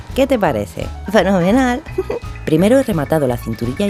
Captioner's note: giggle